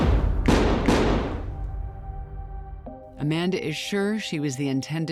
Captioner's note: gunshots